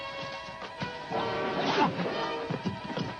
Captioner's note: Pablo groans